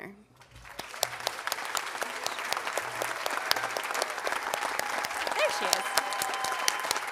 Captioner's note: audience applauding and cheering